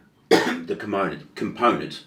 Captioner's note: coughing